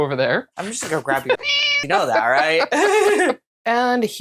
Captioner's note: meow